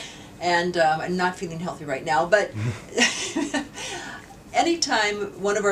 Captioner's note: laughs